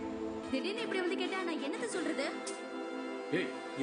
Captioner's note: tamil soap opera playing on TV